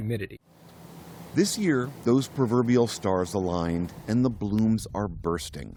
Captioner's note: voice-over